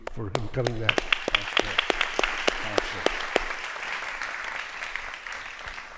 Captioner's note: audience applauding